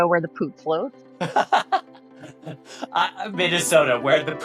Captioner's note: laughing